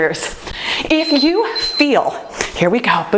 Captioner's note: timer beeps